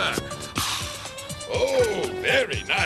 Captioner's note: exhales